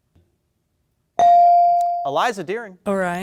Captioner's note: bell dings